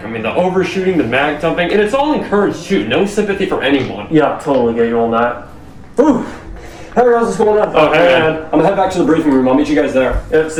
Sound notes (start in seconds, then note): 6.3 heavy exhale